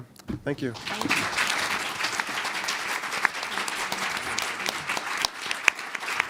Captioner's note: both panelist and audience applauding